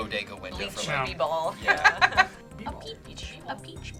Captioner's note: laughs